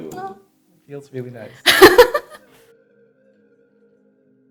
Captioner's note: laughing